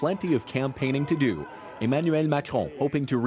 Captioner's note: cheers and Applause